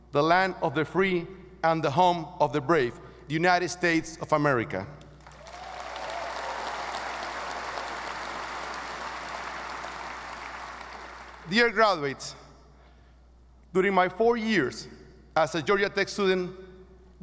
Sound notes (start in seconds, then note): 5.2 audience applauding